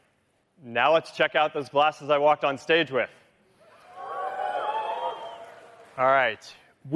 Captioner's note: cheering